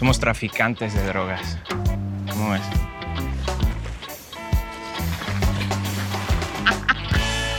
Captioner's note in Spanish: Risotada